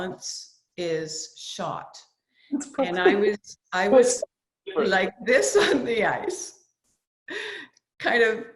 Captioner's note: laughs